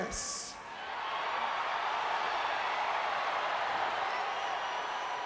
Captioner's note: crowd cheering